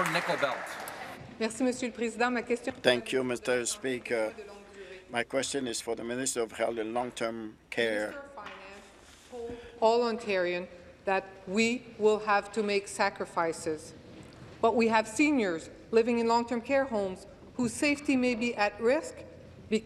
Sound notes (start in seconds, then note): 0.0 some Applause